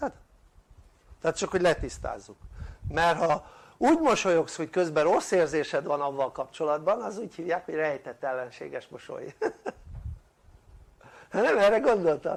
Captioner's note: laughter